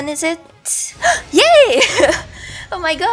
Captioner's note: gasp